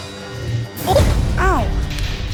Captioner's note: grunts